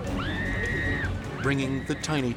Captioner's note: driver screams